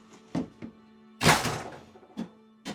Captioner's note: door closes; tapping canister